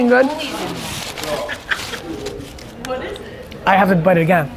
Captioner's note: laughing